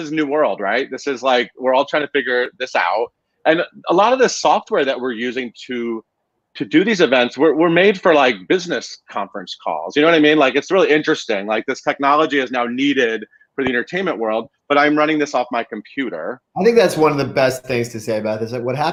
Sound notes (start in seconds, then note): none